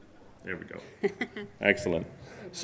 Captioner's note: laughs